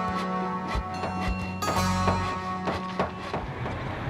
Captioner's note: construction noise